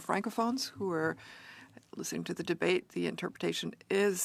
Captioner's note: speaking French